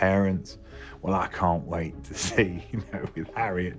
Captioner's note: chuckles